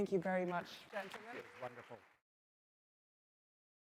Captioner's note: audience applauds